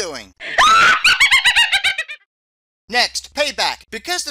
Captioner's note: sound of Witches laughter